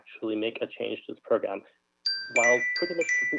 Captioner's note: chime